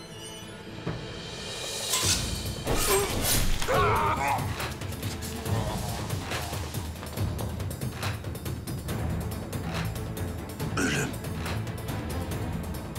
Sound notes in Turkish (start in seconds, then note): 2.6 Kesme sesleri; 12.6 Müzik - Gerilim